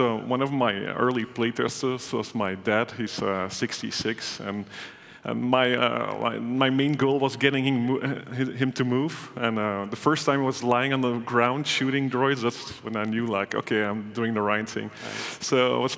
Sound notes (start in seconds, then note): none